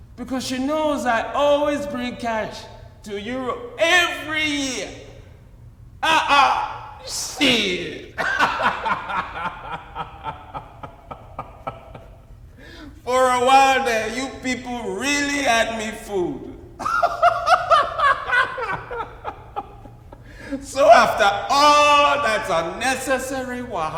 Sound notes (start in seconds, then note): 6.0 laughs; 16.7 laughs